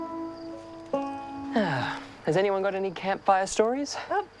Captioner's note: sighs